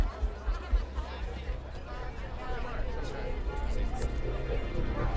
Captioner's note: people chattering; brooding music